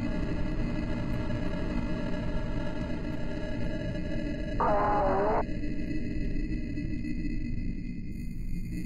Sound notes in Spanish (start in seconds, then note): 5.4 Voces distorsionadas